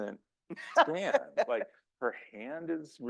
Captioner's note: laughs